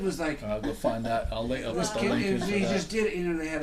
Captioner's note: voiceover